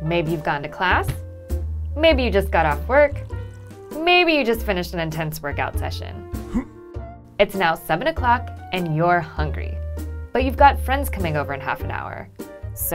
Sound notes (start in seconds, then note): 6.4 grunts